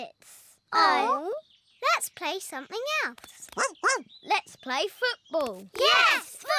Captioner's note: barks